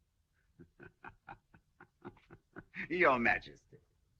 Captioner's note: فرانسوا يضحك